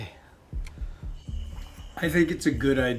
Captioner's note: insects chirp; tense music